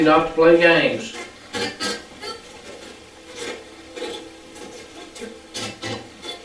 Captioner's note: static playback transmitting